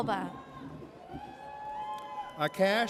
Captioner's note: audience cheers